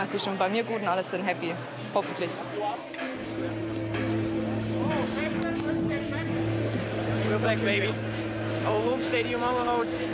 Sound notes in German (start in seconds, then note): 7.8 englisch